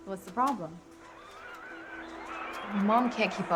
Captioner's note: revving automatic wheel chair